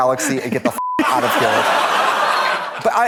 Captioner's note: beep; audience laughs